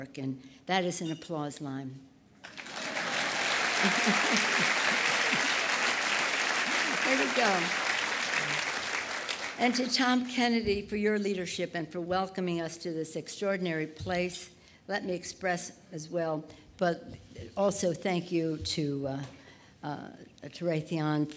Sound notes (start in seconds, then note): 2.4 applause